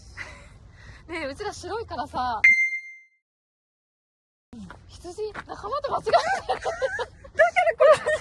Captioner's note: laughs